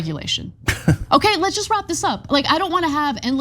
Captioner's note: laugh